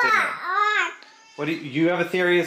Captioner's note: boy moaning